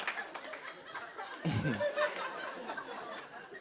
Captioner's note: chuckles